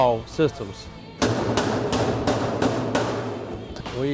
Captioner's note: hammering